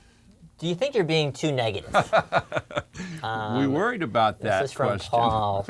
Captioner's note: laugh